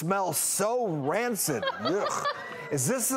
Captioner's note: laughing